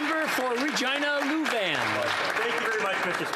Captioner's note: applause